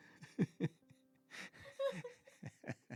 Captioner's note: laughing